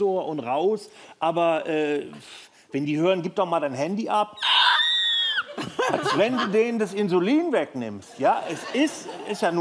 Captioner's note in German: Gekreisch